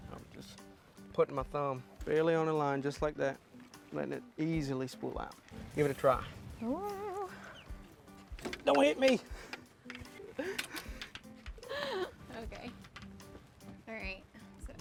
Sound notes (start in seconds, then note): 10.1 laugh